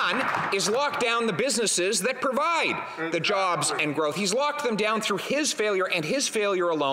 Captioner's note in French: voix de l'interprète